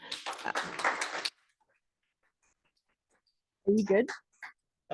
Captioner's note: audience applauding